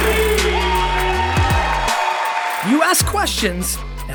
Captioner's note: audience applause; heavy hip-hop music